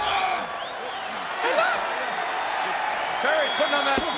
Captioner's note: crowd cheering